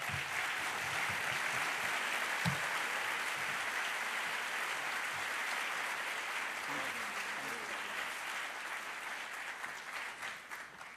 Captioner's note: applause